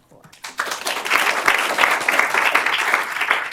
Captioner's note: applause